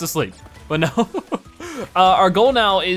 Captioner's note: laughs